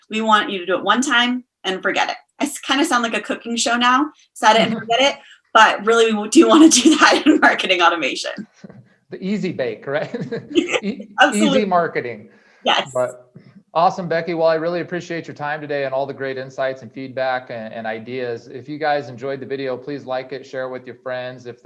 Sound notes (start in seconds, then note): 9.8 laughs